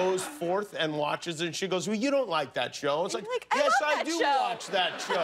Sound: laughter

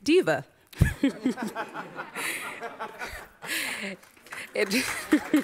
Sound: audience laughs; audience applauds

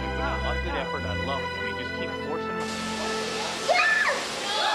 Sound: women yelping; women laughing

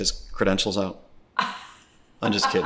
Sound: laughs

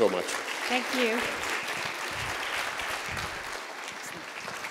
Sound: applause

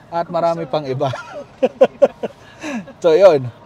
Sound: laughs

